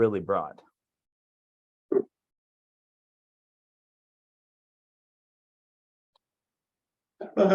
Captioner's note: silence